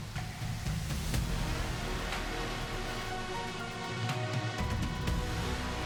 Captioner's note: applause